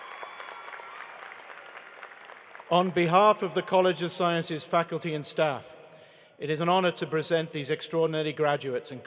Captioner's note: cheering and applause